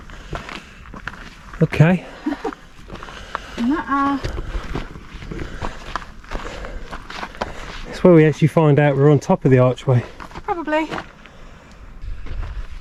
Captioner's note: laughs